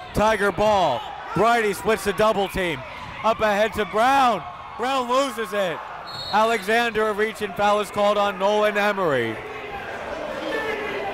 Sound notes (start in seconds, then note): 6.0 whistle blows